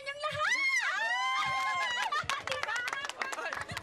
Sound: crowd applauding

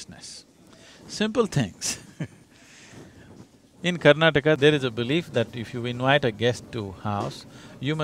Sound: laughs

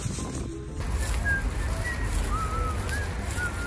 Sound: whistles tune of " "

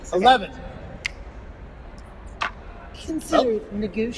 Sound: snaps

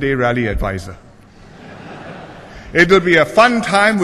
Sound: laughter

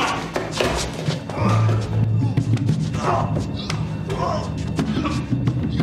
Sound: grunting and groaning

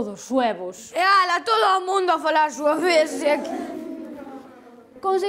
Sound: kids laugh

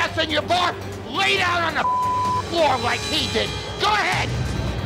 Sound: beep

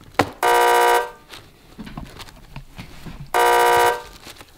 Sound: loud buzzer

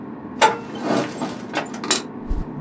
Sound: chair Sliding

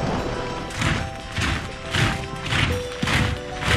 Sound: marching

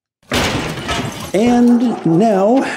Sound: debris ruffling; dogs barking

